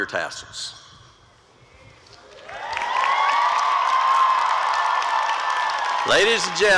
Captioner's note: applause and cheering